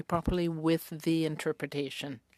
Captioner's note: speaking French